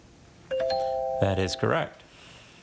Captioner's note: text chiming